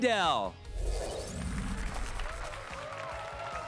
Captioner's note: applause and cheers